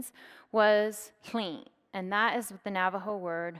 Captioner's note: speaks in foreign language